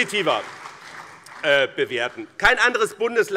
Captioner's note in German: Beifall BÜNDNIS 90/DIE GRÜNEN und CDU